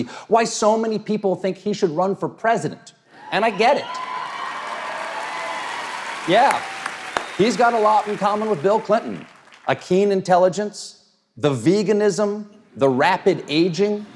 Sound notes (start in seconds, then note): 4.8 audience cheers and applauds; 13.2 audience laughs